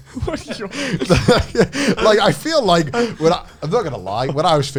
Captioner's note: laughs